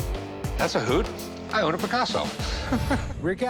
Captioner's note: chuckles